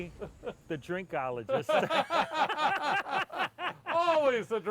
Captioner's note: loud laughing